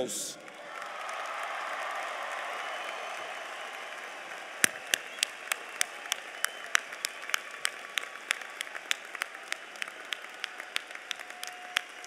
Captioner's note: applause